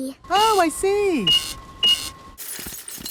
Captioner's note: cash register beeping